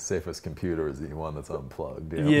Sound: laughs

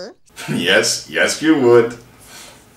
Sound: chortles

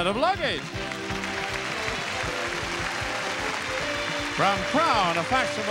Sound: audience cheering

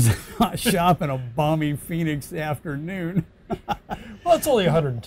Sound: chuckles; laughs

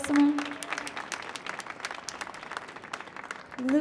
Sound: applause

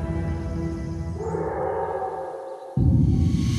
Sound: howl

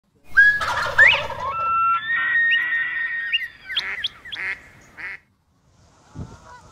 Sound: bird calls

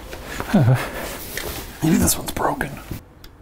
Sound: sighs anxiously

